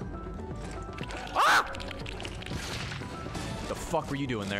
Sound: screams

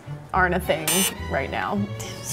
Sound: beep

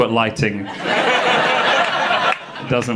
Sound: audience laughing

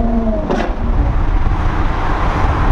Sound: engine shifting

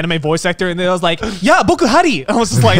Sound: foreign language

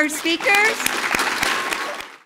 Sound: applause

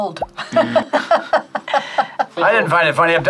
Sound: laughs; buzzer rings

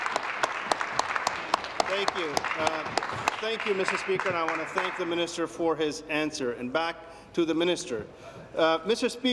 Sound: applause

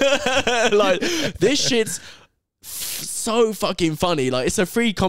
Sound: laughing

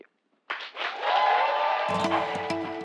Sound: applause

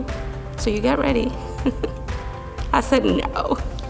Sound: laughs

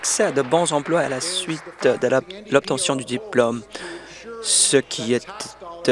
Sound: applause

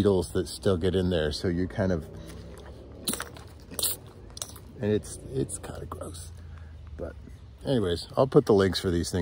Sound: squish squish squish

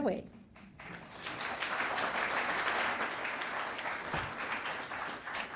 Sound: audience applauding

